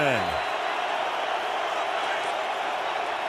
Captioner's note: crowd cheering